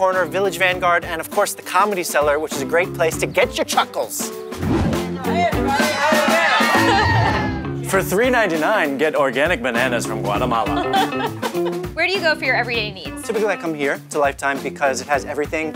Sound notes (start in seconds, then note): 4.5 dramatic wooshing; 6.9 woman chuckles; 10.6 woman laughs